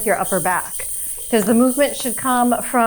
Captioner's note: hip scarf jingling